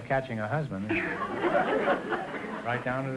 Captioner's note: audience laughter